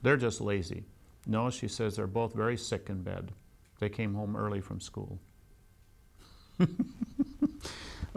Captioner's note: laughs